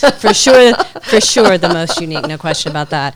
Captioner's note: laughing